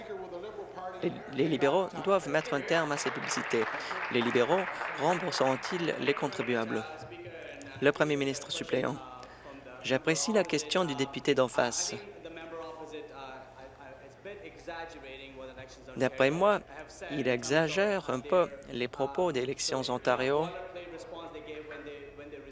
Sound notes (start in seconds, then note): 5.6 applause